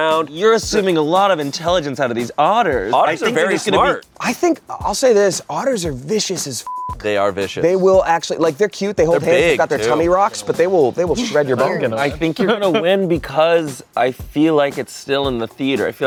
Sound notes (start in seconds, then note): 6.6 beep